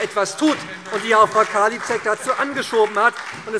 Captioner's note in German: Beifall SPD